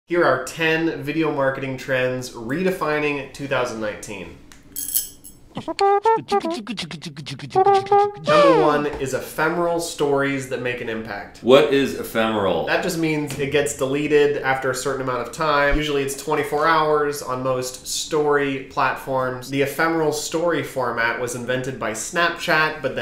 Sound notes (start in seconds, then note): 5.6 beatboxing